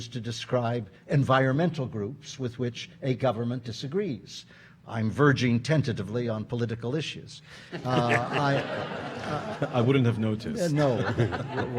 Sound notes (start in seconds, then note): 7.7 audience laughing